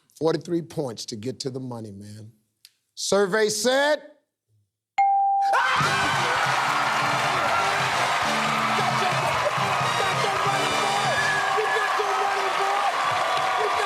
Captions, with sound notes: 43 points to get to the money, man. Survey said... [ Cheers and applause ] Got your -- Got your money, boy! You got your money, boy!